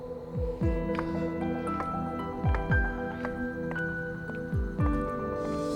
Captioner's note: gentle pensive music; footsteps clacking